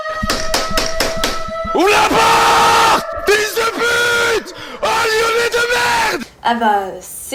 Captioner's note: bambambam